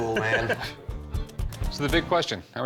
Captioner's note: laughs